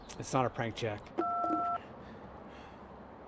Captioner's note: phone beeps